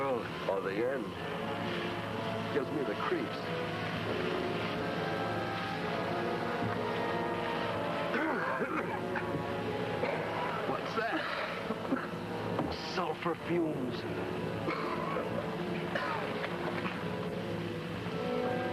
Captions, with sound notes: of the world. - Or the end. Gives me the creeps. (crew coughing) - What's that? - Sulfur fumes. (dramatic music)